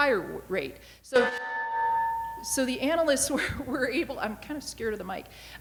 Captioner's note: microphone feedback